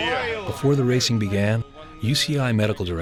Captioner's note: voiceover